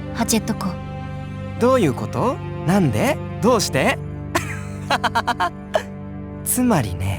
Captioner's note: laugh